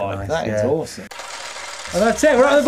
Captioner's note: chains whirring